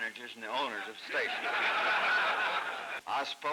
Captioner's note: laughter